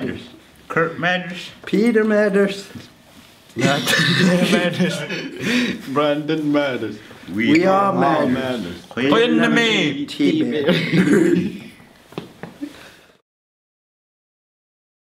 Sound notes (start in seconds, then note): 3.6 chuckling; 9.0 inuktitut